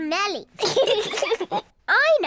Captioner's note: both laugh